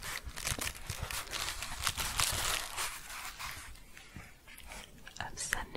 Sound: shuffling and crinkling

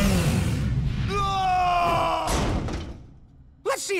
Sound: screaming

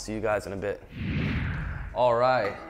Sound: wind whooshing

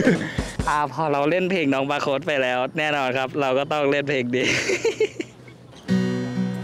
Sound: laugh

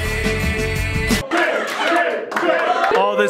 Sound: chanting

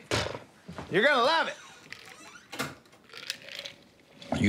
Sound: door opens, closes

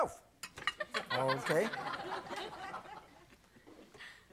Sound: audience laughing

